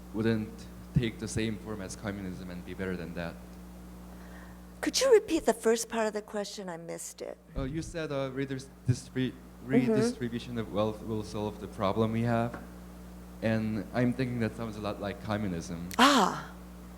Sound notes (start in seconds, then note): 7.6 voiceover